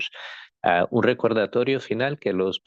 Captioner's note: speaking spanish